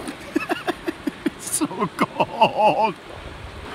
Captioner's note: laughing